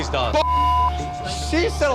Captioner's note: beep